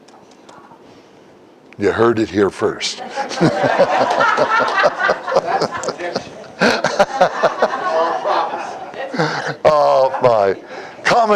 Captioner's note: Смех